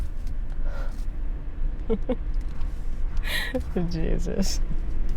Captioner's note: Megan laughing